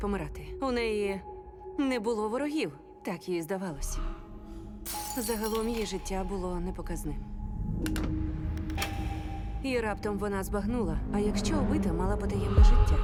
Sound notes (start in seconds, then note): 8.5 lock clicks